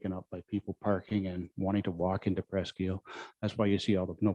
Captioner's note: murmurs